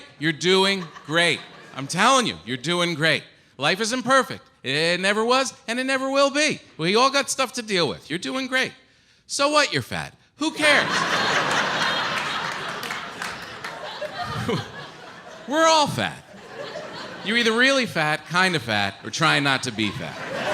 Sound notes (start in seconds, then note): 11.2 audience laughs